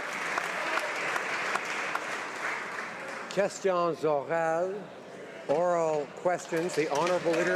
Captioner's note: applause